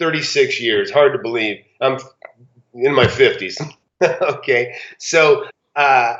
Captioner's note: laughs